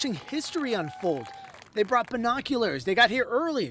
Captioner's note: applause